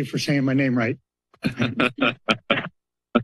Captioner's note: laughter